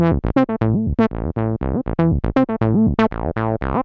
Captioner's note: pluckier sound